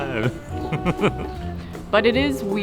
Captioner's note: laughter